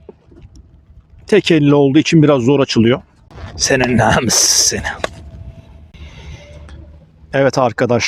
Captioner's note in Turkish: kahkaha